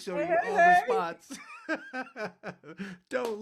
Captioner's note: laughing